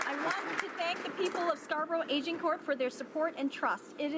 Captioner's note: some Applause